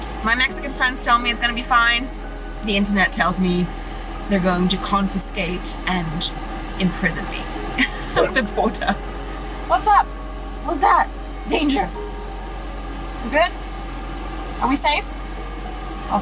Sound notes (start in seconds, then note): 8.5 Vilk barks